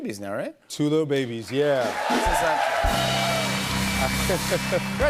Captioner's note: cheers and applause